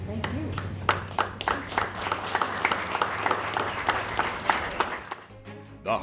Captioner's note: applause